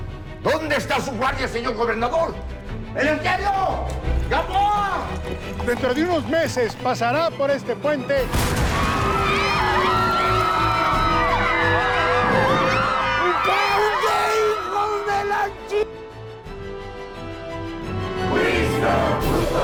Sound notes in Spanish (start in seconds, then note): 8.3 Explosión; 8.8 Griterío; 9.9 Relinchos